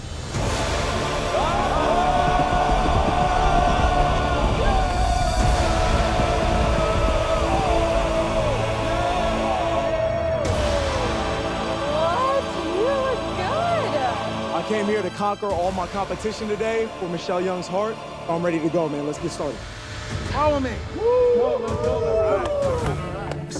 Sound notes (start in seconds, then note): 0.1 dramatic music; 3.2 men shouting; 8.8 cheering; 20.9 cheering